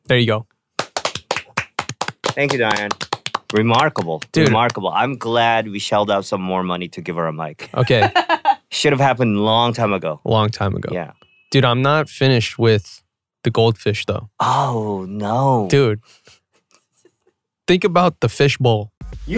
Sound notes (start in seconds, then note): 0.8 clapping; 7.7 laughing